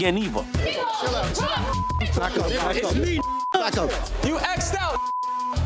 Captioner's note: men yelling; beep